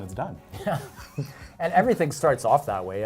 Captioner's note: laughing